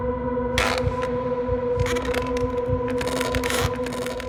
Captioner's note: wood creaking